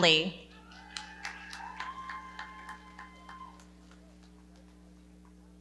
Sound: audience cheering and clapping

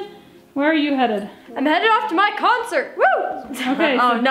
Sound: laughs

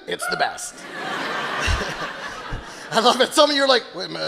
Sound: audience laughing

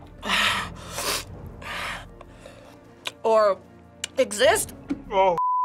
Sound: sniffs

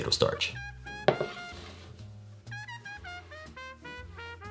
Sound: pie pan sliding

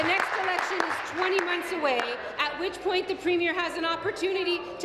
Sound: applause

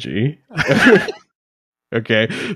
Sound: laughing

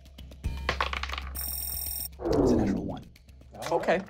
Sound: rolling dice

